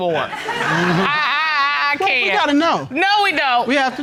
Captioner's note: stammers